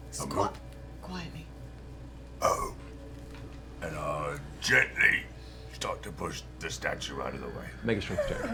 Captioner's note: whispering